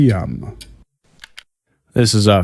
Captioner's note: recorder clicks off